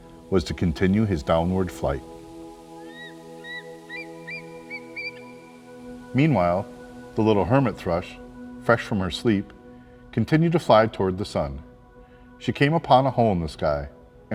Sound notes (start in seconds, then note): 2.7 eagle call